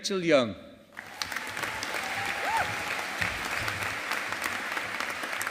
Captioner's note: audience applauding